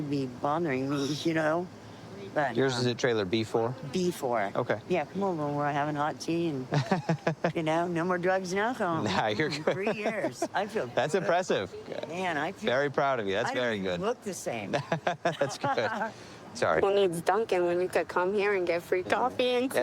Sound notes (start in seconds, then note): 6.7 laughs; 14.7 laughing